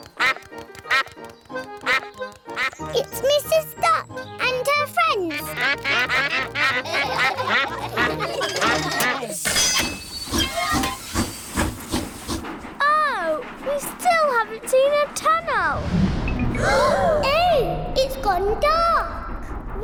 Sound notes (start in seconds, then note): 0.3 quacks; 5.2 all quack; 5.4 laughter; 10.5 train chugs; 16.6 all gasp